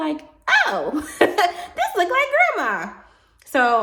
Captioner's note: laughs